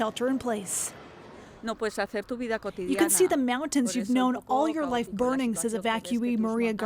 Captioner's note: speaking French